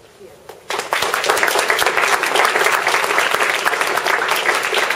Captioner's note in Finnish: Yleistö taputtaa